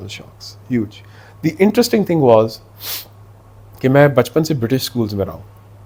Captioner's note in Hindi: नाक से की जाने वाली आवाज़